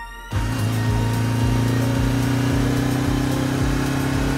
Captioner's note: engine rumbling